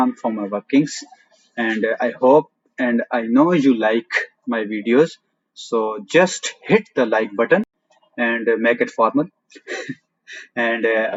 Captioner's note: laugh